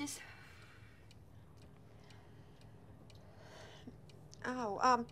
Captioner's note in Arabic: دقات الساعة